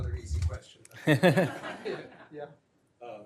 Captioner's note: laughter